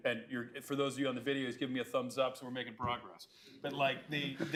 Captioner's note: laughter